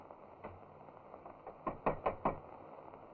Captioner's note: knocking on door